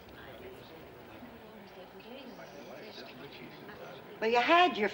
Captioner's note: patrons chattering